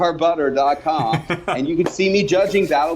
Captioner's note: laughs